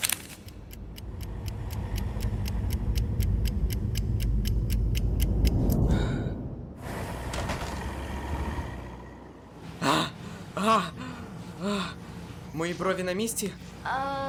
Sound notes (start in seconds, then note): 0.4 clock ticking; 5.8 sighs; 9.6 panting